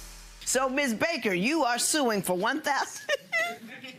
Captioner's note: laughs